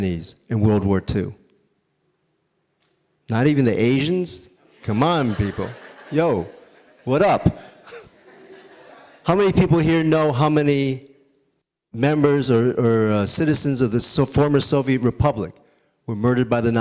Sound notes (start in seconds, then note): 9.7 audience laughing